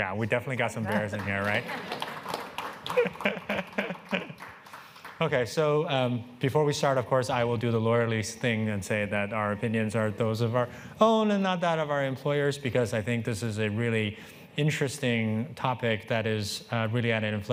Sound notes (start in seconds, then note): 0.8 applause and cheering